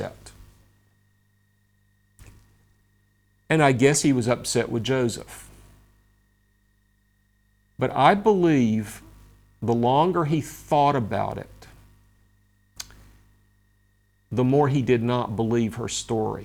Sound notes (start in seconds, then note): 12.8 smacks lips